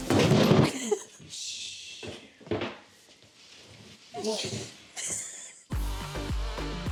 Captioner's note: shelf clatters; laughs